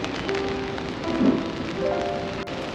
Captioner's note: thunder